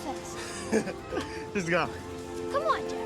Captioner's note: laughing